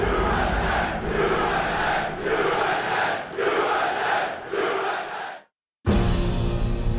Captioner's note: chanting "U.S.A."; patriotic Military Band Music